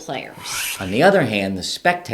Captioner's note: air whooshing